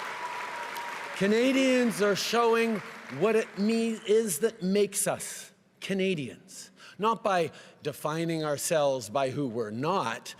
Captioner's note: cheering and applause